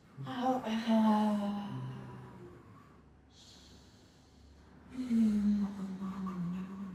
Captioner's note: moaning